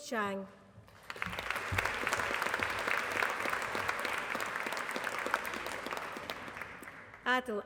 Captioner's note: applause